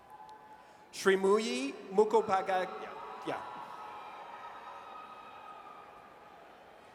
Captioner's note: audience cheers